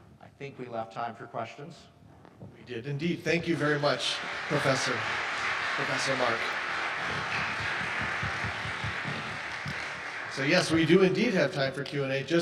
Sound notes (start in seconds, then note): 7.1 audience applauding